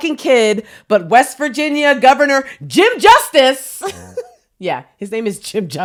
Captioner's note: giggles